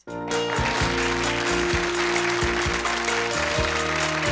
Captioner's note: audience applause